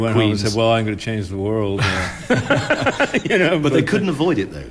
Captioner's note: laughs